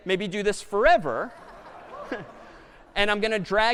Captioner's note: laughter